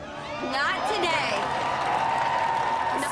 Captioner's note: cheering and applause